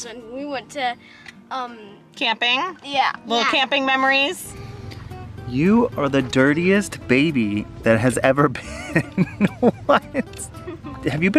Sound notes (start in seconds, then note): 8.5 laughing